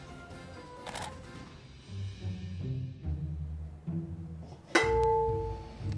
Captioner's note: camera shutter clicks; metal ringing